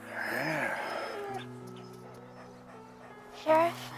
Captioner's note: Buck whining